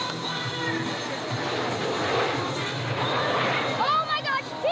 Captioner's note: engines roaring